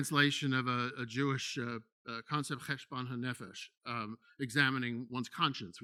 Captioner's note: speaking in foreign language